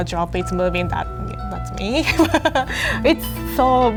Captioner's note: laughs